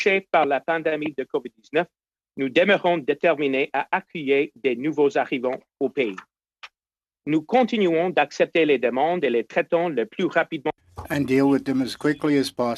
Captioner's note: speaking French